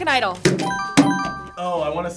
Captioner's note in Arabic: قرعات الجرس